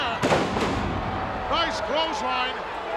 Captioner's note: ground slamming